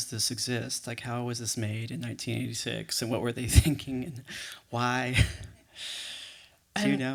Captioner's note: chuckles